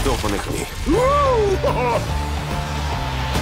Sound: people cheering

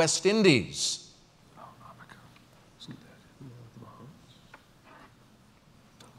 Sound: pause

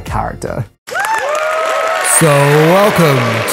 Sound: audience applause

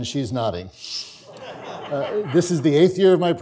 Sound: audience laughs

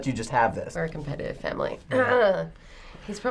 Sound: clearing throat

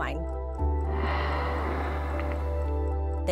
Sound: water spraying

